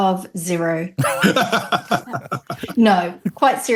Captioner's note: <i>laughter</i>